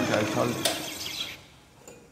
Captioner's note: the whirring stops